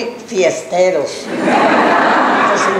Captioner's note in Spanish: laughs